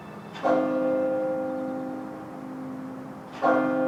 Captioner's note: bell ringing